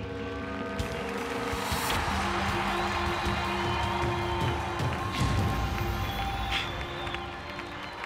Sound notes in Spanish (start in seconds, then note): 0.8 aplausos; 0.9 aclamaciones